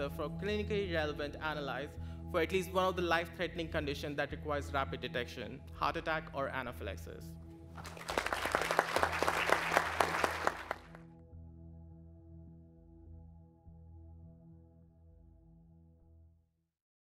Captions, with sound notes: for clinically relevant analytes for at least one of the life-threatening conditions that requires rapid detection, heart attack, or anaphylaxis. (clapping)